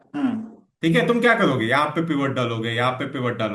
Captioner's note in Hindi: गला साफ़ करने की आवाज़